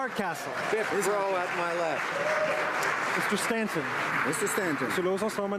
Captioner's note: applause